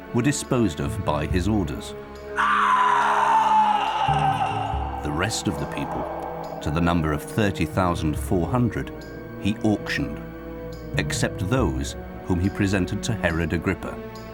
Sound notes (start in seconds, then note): 2.3 person screaming